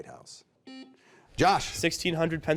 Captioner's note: buzzer beeping